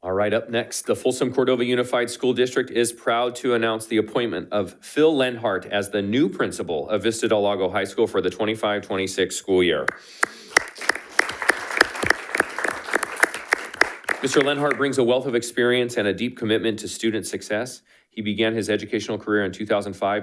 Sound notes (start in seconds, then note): 10.2 attendees applauding